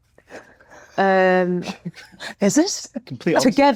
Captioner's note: laughing